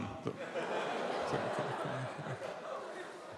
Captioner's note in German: Lachen